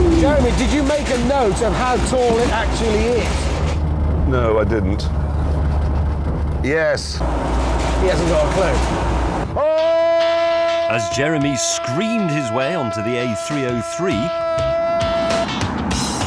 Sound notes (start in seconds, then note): 9.6 jeremy screams